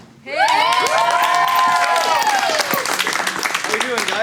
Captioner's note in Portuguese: Aplausos